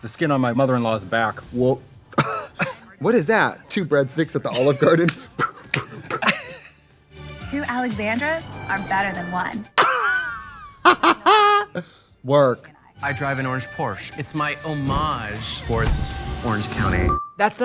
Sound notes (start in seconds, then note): 1.6 Trixie laughs; 2.2 Katya gags; 4.4 Katya laughs; 9.9 Trixie cackles